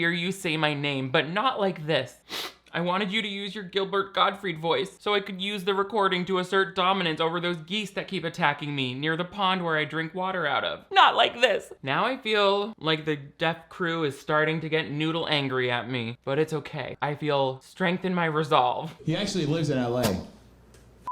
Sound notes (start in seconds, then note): 2.2 sniffs